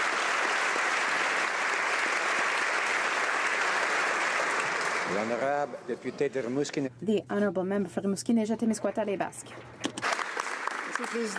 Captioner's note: applause